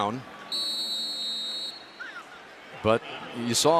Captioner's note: whistle